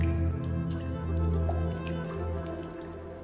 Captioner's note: dramatic orchestral music; water dripping